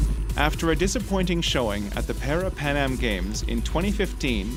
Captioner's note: voiceover